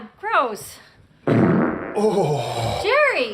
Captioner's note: Jerry farts